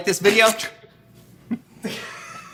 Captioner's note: laughing